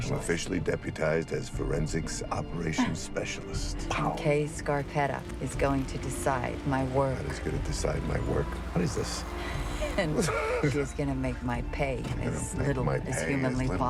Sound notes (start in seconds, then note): 3.0 chuckles; 10.1 both chuckle